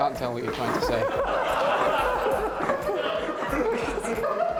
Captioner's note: laughter